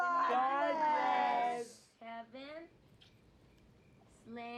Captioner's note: kissing sound